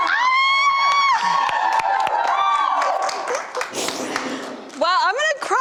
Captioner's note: screaming; crowd cheering